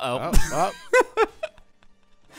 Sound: wheezes

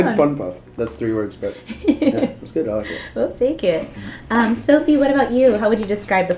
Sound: laugh

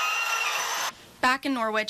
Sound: nats construction

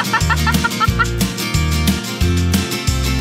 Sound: upbeat music; laughs

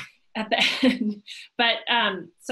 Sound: laughs

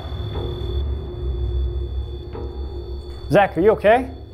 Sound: machine buzzing

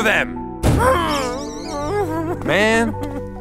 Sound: groans

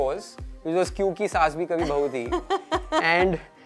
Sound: laughs

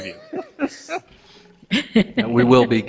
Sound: board members laughing

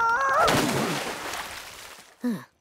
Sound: yelling; sighing

